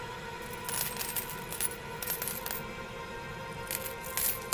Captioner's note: coins clinking